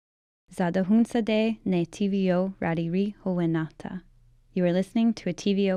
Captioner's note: speaking Indigenous language